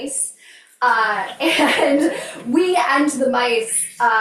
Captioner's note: crowd members laughing